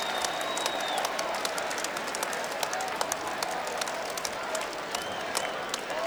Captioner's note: crowd cheering and applauding